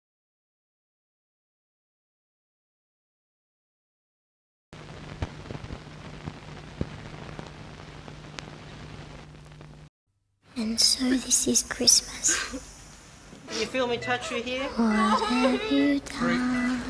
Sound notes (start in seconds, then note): 12.3 crying